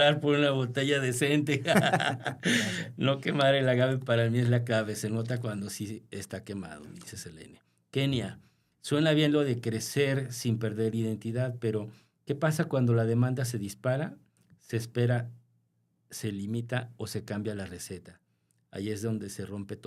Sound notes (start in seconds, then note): 1.5 laughter; 2.4 gasp